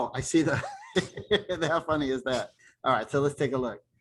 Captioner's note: laughter